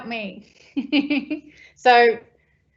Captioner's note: laughing